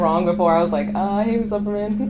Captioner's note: laughs